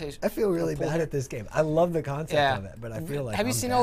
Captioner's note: none